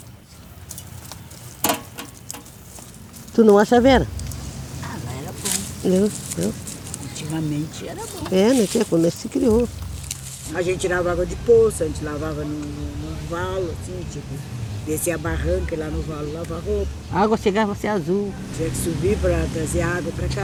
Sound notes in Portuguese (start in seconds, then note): 0.2 ruído metálico; 8.4 farfalhar de cascas secas